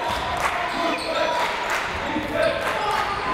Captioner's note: crowd